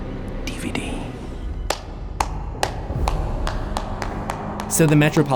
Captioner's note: clapping